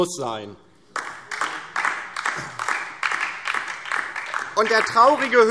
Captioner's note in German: Beifall DIE LINKE